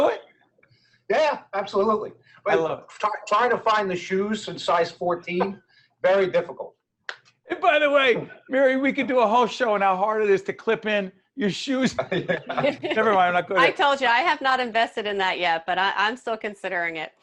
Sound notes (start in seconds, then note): 11.8 laughing